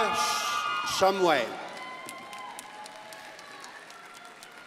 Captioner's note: crowd applauding